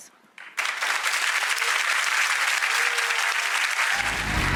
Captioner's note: audience clapping